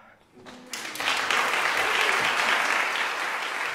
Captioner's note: applause